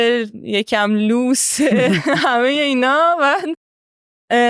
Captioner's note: laughs